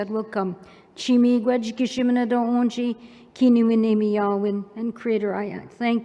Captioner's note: non-english speech